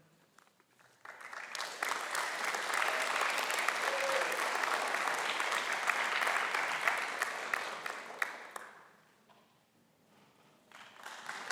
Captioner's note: cheering and applause